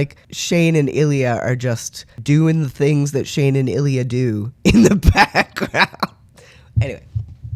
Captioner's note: laugh